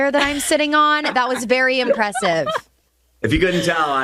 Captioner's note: and host laughs